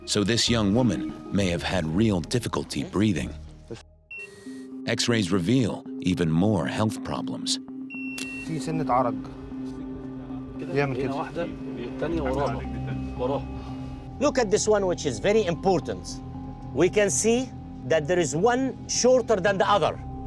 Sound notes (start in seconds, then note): 8.9 speaking foreign language; 11.7 somber music